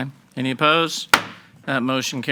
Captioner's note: gavel banging